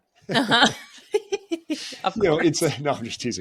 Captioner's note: both laughing